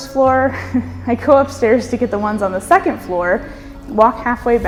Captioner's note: laughs